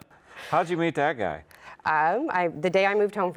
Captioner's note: laughs